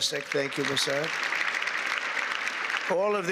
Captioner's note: applause